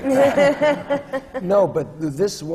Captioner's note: laughter